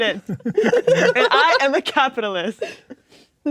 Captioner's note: players laughing